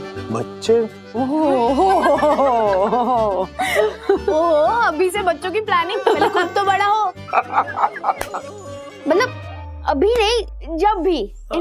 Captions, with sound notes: Kids? - Oh. - [laughs] Oh, you're planning for kids from now? Grow up first. [laughs] I mean, not now, whenever it may be.